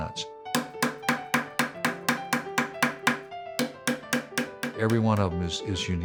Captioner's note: hammering